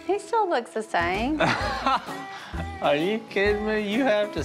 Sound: laughs

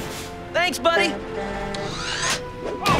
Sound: truck horn

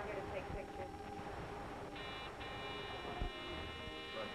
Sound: doorbell buzzing

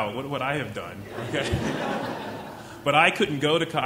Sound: chuckling

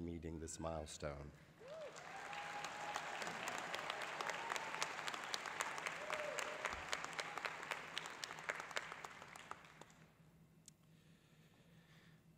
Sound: applause

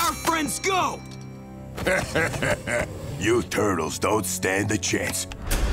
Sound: chuckling

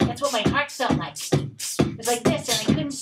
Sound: Mr. Root and Mr. Max beatboxing

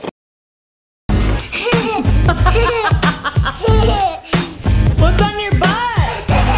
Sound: laughing

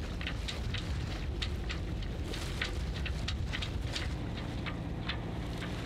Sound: sail boom rattling; water lapping softly

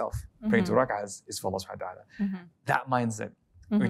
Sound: speaking Arabic

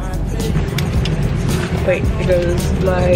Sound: seatbelt clicking

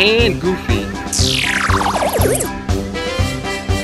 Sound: mechanical whirl; carnival music

